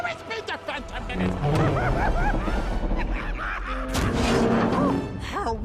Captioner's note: laughing maniacally